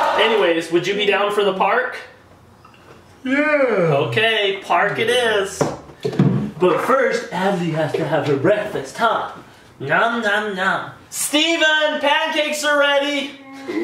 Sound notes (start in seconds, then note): 3.2 yawning